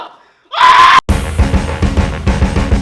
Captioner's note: screaming